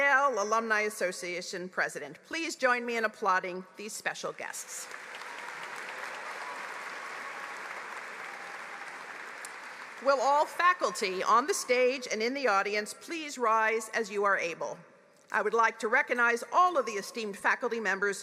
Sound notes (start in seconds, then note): 6.7 applause